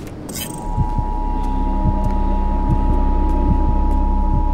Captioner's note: heart beating